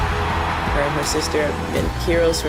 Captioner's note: крики зрителей